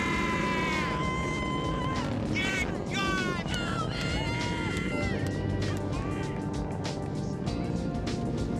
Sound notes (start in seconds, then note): 2.3 shouting and cheering